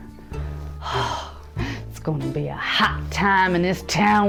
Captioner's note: excited exhale